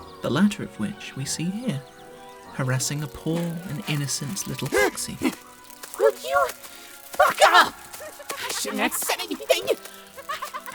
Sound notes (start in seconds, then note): 4.6 gasping